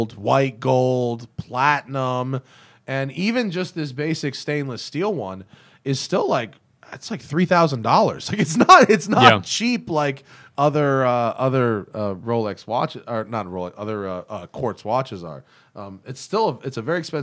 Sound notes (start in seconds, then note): 8.3 laughter